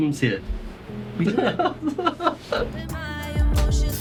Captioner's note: laughs